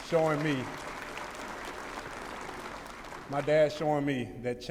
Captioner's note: applause